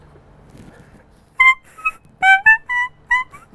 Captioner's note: whistles